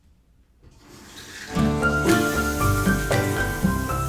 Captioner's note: flowing water